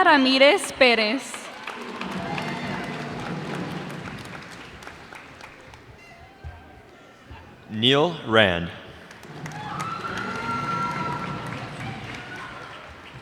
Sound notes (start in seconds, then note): 2.3 cheers and applause; 9.0 cheers and applause